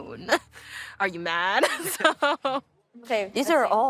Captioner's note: laughing